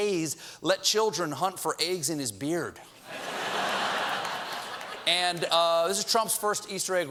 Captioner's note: laughter